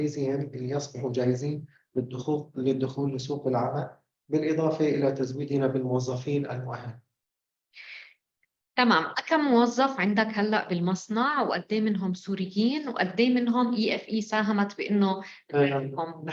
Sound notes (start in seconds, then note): 9.7 speaking arabic